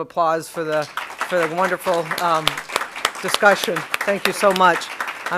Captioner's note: applause